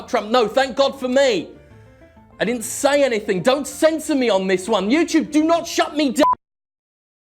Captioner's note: gasps